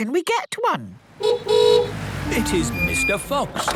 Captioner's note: horn honking